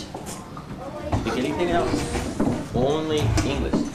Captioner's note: students murmur